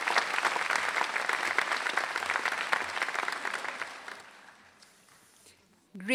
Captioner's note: applause